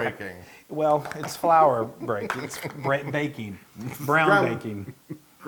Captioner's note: laugh